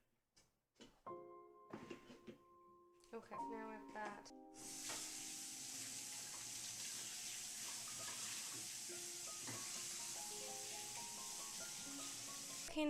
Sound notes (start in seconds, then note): 4.3 water Running; 5.7 soft Music